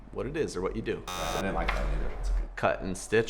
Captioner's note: buzzer